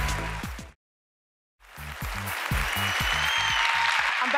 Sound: cheers and applause

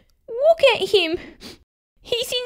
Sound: sniff! Sniff!

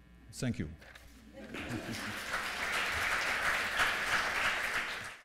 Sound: applause

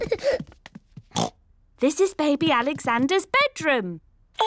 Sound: oinks

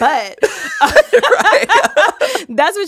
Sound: both laughing

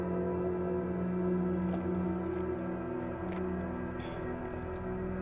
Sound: gulping water

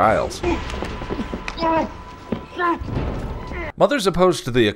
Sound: Giles being chloroform sounds

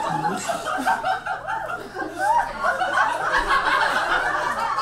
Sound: audience laughs

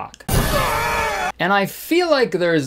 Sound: screaming

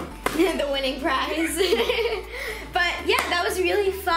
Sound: laughs

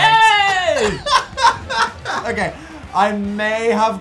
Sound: gorgeous chuckling

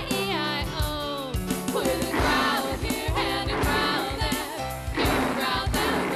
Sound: growling

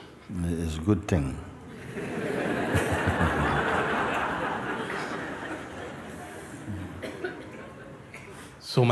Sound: laughter

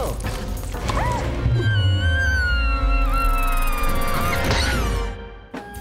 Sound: Rufus squeals

